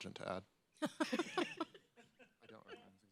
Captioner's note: laugh